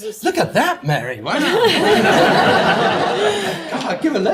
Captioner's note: audience laughs